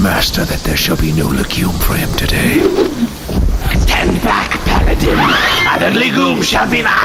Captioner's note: draws sword